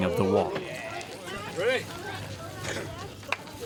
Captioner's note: chanting